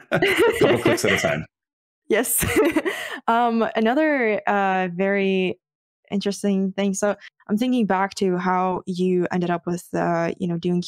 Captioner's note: laughing